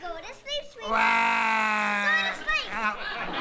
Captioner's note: wails